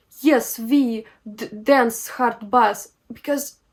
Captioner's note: with strong Russian accent